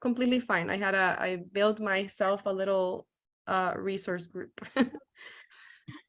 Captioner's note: laughs